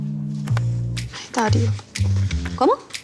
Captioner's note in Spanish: Entre dientes